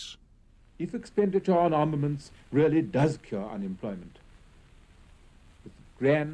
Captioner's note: over radio static